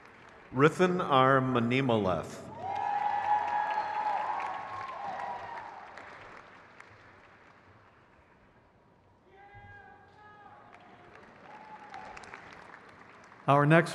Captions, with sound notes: Joshua Ryan Edic. (crowd cheers)